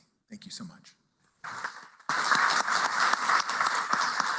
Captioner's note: applause